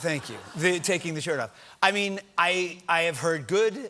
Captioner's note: laughter